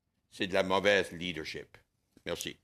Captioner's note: speaking in French